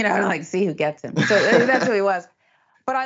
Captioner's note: laugh